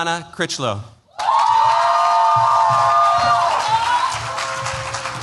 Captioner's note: cheers, applause